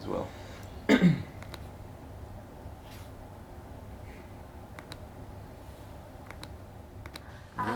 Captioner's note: Sound of Gary's laptop keyboard. Clack, clickety-clack